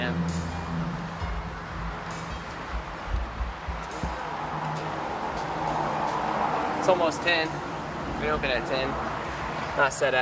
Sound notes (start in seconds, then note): 4.1 traffic noise